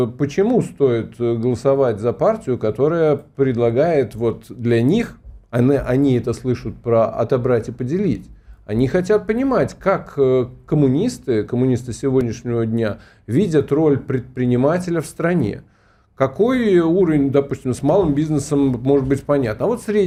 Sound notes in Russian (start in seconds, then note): none